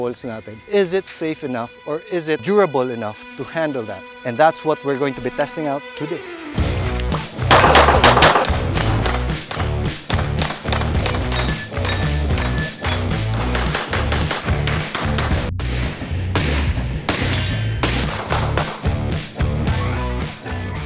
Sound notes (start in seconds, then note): 7.3 gunshots; 9.0 rock music